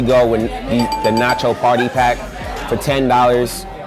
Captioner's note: dinging